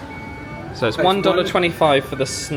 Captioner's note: machine beeps